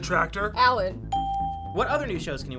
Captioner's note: bell rings